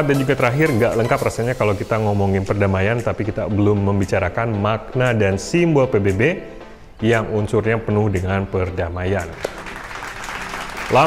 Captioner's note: hand clapping